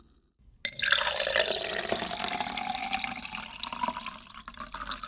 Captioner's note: pouring water